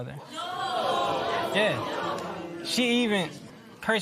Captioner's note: spectators murmur